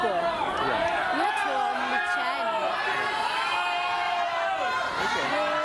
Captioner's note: shouting